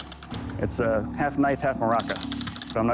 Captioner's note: rattles